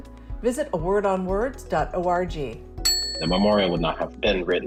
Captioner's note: bell dinging